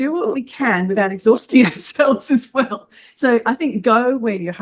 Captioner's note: laughs